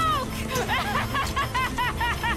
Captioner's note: laughing